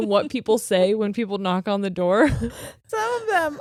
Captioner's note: laughing; chuckles